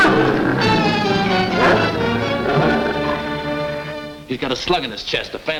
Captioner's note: Devil barks; frantic orchestral music; ominous music; devil growls